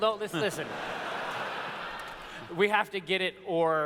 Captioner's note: laughter